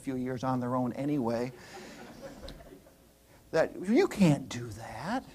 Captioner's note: laughter